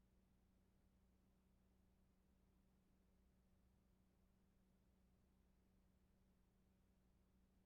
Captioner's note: none